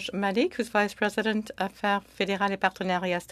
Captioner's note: speaking French